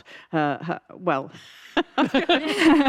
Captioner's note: laughs